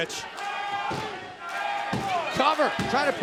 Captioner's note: crowd cheering